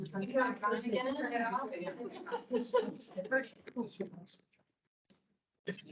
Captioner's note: indistinct chatter